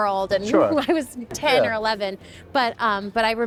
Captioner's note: laughing